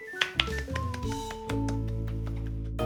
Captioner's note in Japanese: 拍手